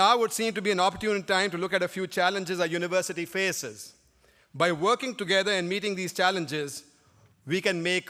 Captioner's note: none